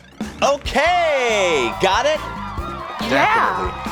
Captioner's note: crowd cheering